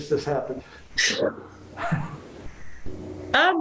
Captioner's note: chuckle